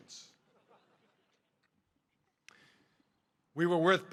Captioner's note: audience laughing